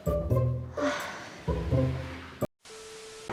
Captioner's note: sigh